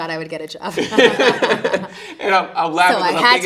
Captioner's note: interviewer laughing